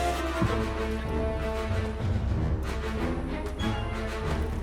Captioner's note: footsteps crunch